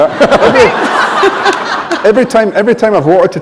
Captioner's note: laughter